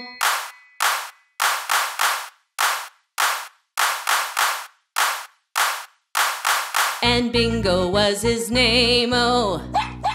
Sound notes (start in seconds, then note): 1.4 hands clap; 3.7 hands clap; 9.7 dog barks